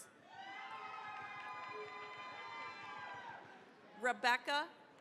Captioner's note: cheering, applause